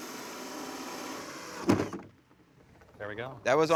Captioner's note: drilling machine whirring; thuds